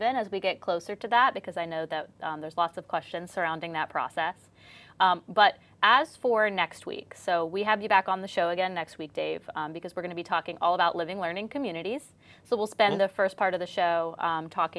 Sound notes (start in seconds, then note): none